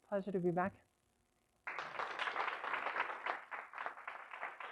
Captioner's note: applause